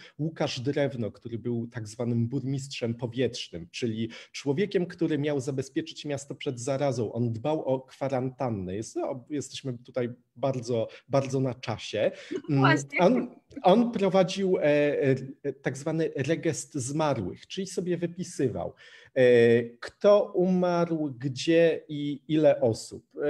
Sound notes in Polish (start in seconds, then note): 12.3 śmiech